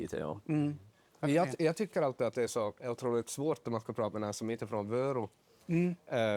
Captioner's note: starts to speak dialect